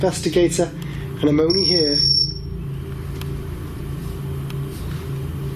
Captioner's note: REM Pod beeping